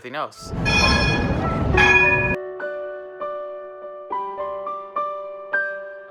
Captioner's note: gentle piano music; loud clanging